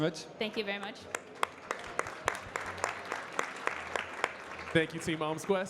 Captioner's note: audience clapping